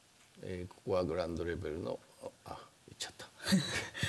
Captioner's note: speaking japanese